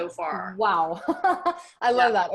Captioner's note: laughs